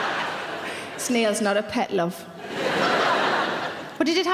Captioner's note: laughing; laughing